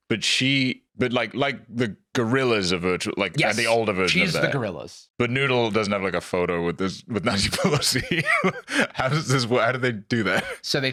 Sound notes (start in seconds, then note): 7.3 laughs